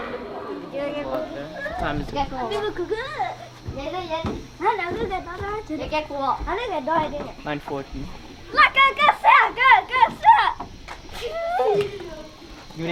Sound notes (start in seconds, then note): 2.8 foreign language; 8.4 boy in red shirt cheers